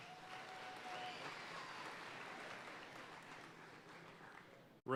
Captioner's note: audience cheering and applauding